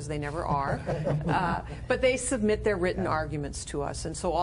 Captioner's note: laughter